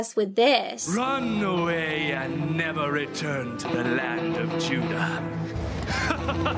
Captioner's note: laughs